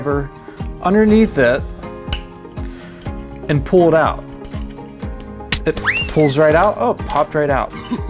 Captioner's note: silly sound effect; silly laugh